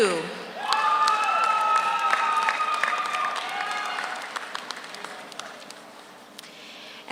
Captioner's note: audience cheers; audience applauds